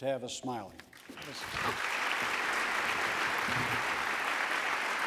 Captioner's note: applause